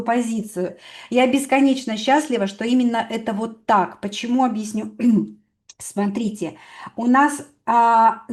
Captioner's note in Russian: откашливается